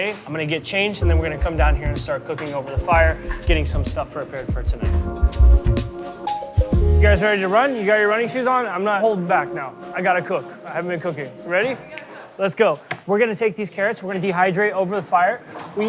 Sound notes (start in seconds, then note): 12.3 fingers snap